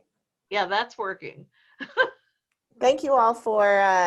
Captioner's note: laughs